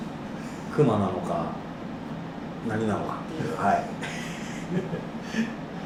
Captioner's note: laughs